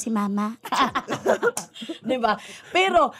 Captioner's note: both laugh